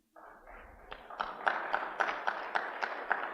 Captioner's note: applause